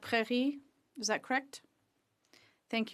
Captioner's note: speaking French